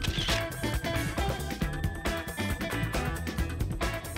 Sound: upbeat music; camera shutter whirring

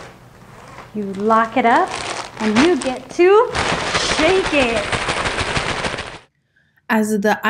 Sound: ice shaking

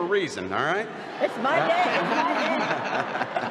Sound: laughter

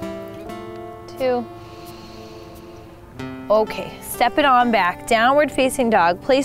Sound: breathes

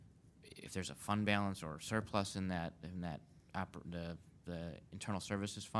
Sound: stammers

